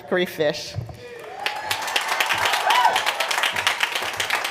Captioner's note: applause